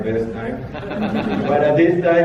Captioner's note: laughter